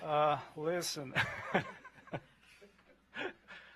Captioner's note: laughter